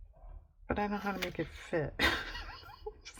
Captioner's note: laughs